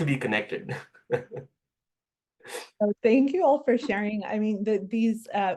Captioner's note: laugh